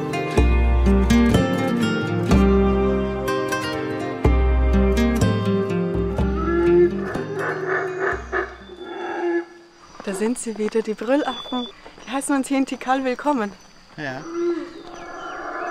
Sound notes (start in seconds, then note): 6.2 monkey roar